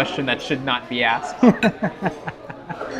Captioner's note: laughs